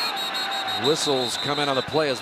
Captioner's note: whistle